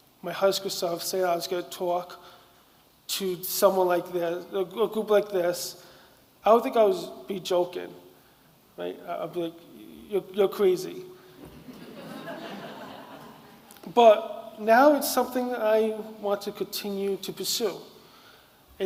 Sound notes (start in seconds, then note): 11.4 audience laughing